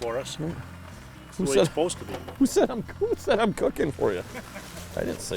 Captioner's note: laughing